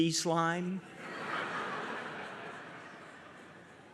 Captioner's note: audience laughs